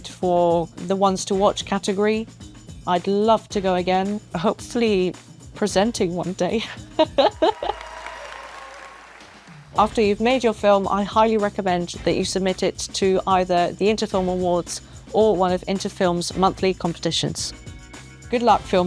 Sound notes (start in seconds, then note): 7.0 laughs; 7.4 cheers